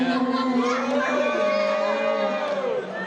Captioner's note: booing